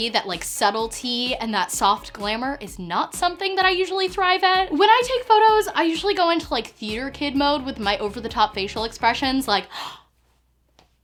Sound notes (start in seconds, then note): 9.7 gasps